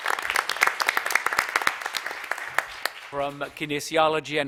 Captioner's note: applause